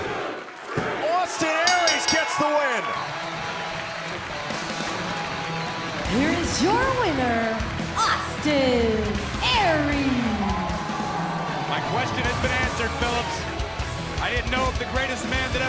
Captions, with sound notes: >> [CROWD CHEERING] >> AUSTIN ARIES GETS THE WIN. >> [BELL RINGING] >> [CROWD CHEERING] >> HERE'S YOUR WINNER, AUSTIN ARIES. >> MY QUESTION HAS BEEN ANSWERED, PHILIPS. I DIDN'T KNOW IF THE GREATEST